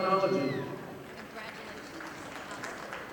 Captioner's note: audience applauding